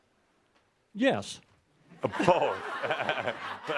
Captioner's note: laughter